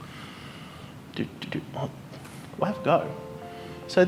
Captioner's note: humming